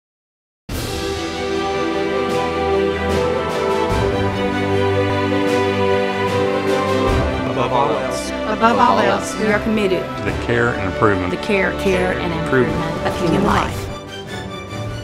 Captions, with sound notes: (uplifting instrumental music) - [Many Voices] Above all else, we are committed to the care and improvement of human life.